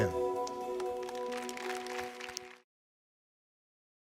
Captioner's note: congregation clapping